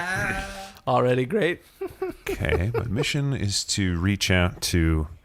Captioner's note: laughing